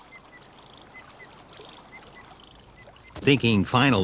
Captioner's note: water trickles